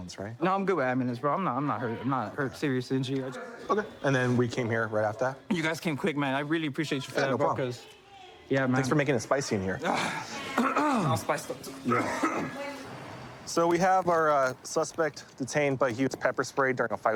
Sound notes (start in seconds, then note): 11.6 coughs; 11.8 clears throat